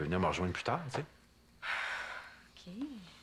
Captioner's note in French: Soupir